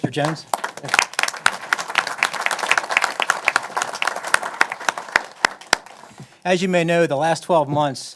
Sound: applause

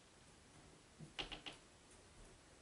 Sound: creaking beams

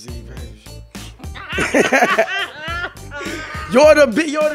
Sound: laughing

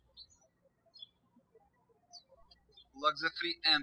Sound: birds chirping

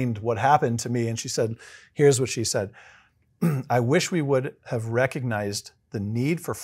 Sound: cough

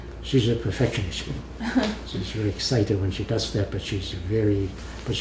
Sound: laughs

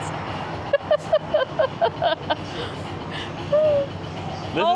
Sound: laughs

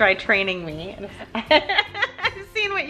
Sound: laughing

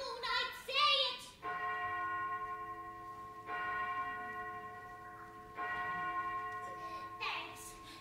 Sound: church bell tolls three times

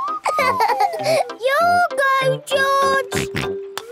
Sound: laughing; snort, laughing

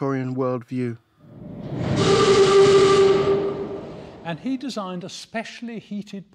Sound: loud train horn

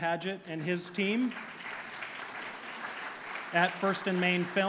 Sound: audience applauding

